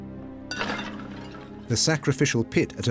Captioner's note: pottery clatters